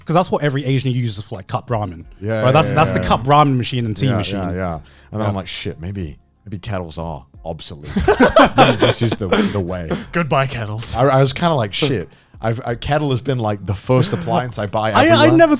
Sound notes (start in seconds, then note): 7.8 men laugh